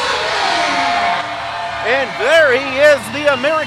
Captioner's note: crowd cheering